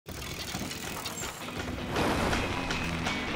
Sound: bike gears clicking; exciting guitar music

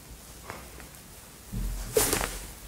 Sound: thud

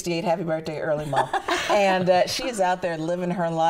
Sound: laughing

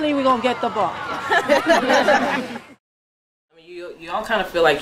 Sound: laughter

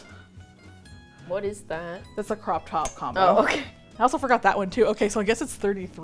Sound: laughs

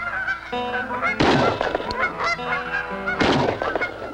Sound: gunshots

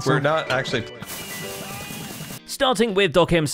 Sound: fireworks explode

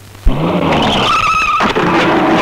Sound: brakes squeal

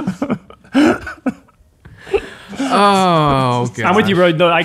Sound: laughing

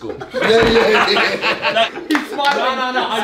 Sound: all laugh

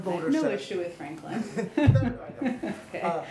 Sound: laughter

